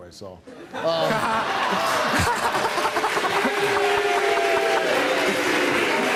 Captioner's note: laughing; audience boo's